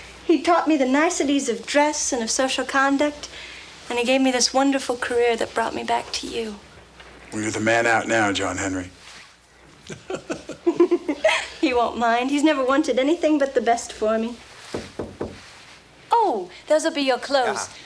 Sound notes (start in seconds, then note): 9.8 Jilly giggles; 9.8 John chuckles; 14.7 knocks on door